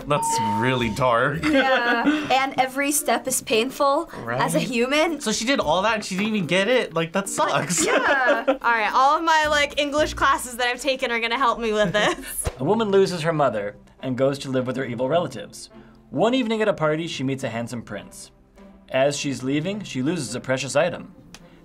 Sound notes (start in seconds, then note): 7.5 laughs